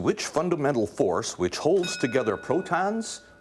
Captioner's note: ding